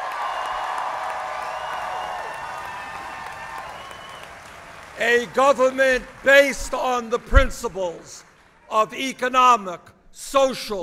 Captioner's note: applause